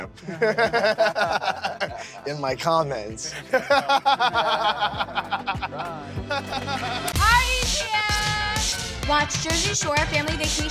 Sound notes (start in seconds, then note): 0.1 everyone laughs; 3.3 everyone laughs